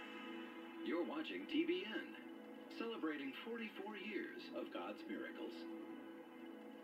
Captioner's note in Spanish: en televisión